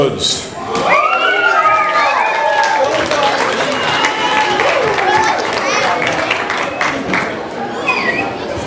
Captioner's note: audience applause